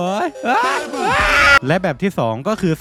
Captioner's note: uncomically scream